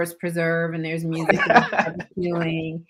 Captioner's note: laughs